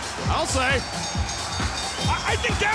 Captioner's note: bell ringing